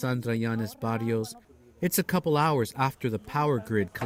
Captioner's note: speaking alternate language